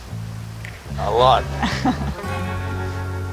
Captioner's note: laughs